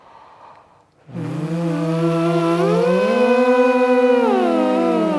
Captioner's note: all vocalizing